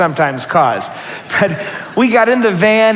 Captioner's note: laughter